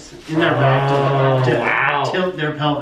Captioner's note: mummers